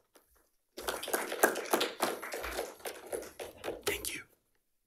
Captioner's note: attendees applauding